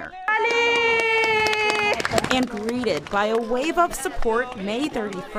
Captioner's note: applause